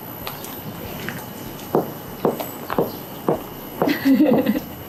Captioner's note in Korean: 발 뒤꿈치 구르는 소리